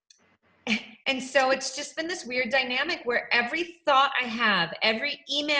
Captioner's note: laughs